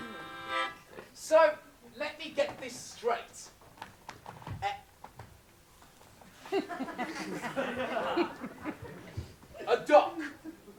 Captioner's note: laughter